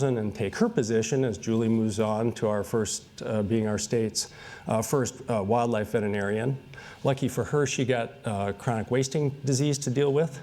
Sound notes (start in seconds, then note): none